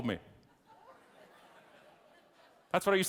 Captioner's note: audience laughing